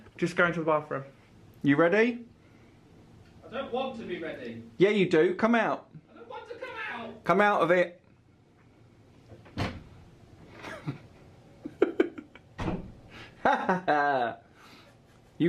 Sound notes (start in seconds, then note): 9.7 door clicks; 13.3 laughs